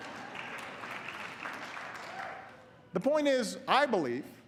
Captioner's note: applause